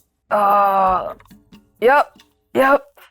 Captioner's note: groans